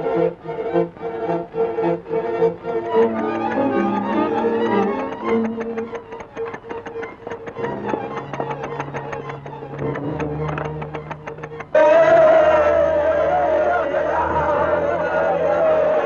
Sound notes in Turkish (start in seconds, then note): 11.7 Bağırış çığırış, çığlıklar